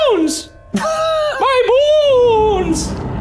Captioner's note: laughing